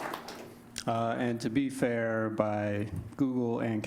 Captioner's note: applause